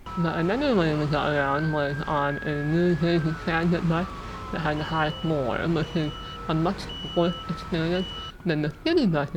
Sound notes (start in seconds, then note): 3.1 sirens and highway noise; 7.3 bus lift beeping